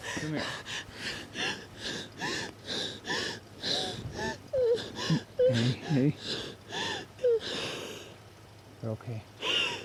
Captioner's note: crying